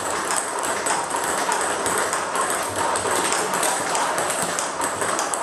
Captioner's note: ball ping pong hitting continues